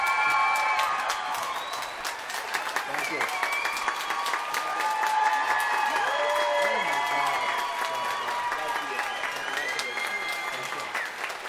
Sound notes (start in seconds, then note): 0.2 applause; 4.2 cheering